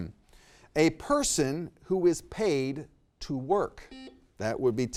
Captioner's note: buzzer beeps